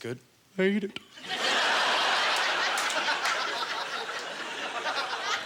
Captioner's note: audience laughter